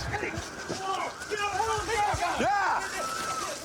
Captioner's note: officers yelling